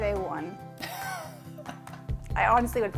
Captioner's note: laughing